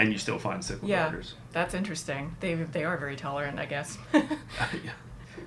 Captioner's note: laughing